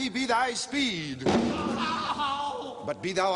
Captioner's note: loud noise